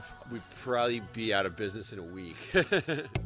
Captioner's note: laughing; upbeat percussive music